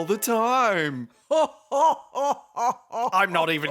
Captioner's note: Phasma laughs loudly and evilly